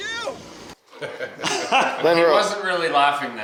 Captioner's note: laughing